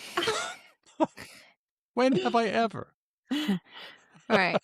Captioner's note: laughs